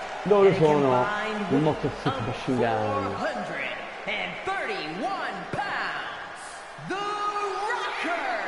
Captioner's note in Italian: Applauso